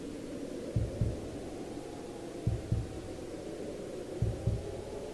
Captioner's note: muffled wind howls